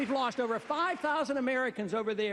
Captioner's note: cheers, applause